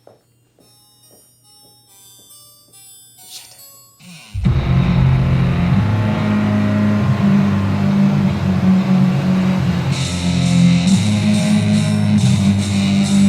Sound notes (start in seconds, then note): 0.6 gentle harpsichord music; 4.3 engine roars; 4.3 muffled heavy metal music; 10.1 heavy metal music